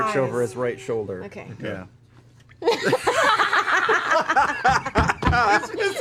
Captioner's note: laughter